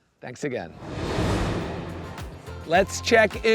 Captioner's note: graphics whooshing